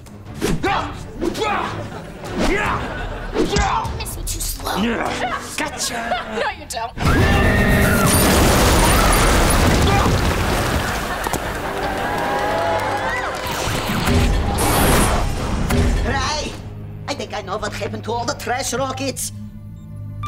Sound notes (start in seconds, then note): 7.0 screaming; 9.3 groaning